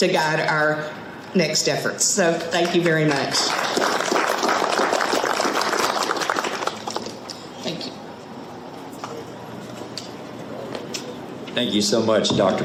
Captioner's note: audience clapping